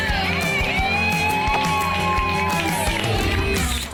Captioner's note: upbeat music; cheering